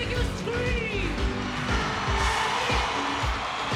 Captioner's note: crowd screams